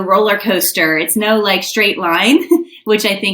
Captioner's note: chuckles